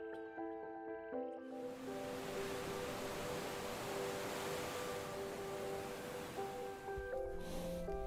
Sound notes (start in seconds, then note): 1.7 waves crashing